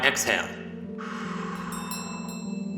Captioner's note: chimes ring; breathes out